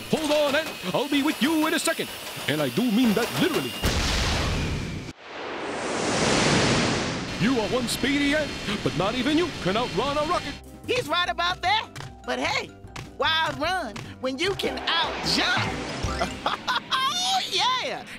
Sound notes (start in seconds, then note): 4.0 rocket roars